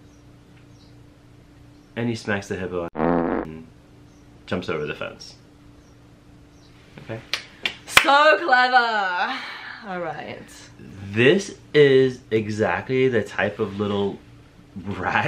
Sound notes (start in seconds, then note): 2.9 fart sound; 7.3 clapping; 8.1 sarcastic